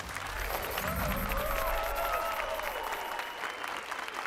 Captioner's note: applause and cheers